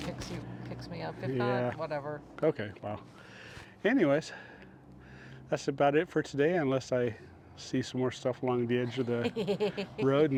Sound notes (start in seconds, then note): 8.8 laughter